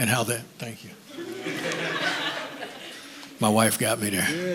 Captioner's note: chuckles